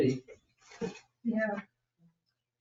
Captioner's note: chuckles